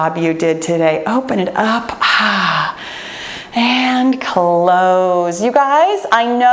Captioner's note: sighs